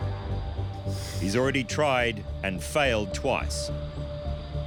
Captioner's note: breathes heavily